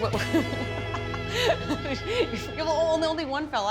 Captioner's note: laughing